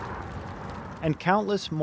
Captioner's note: car driving past